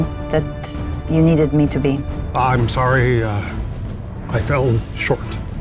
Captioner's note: none